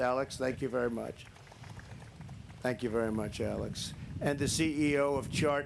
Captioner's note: applause